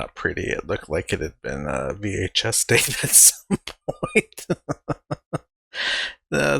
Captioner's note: laughing